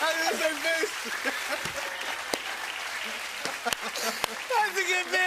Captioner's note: both laugh